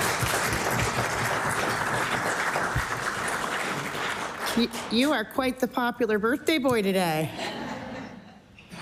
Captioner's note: applause